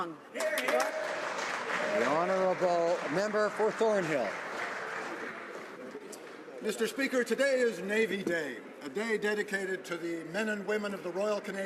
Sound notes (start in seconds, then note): 5.0 some Applause